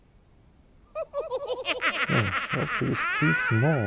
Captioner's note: laughter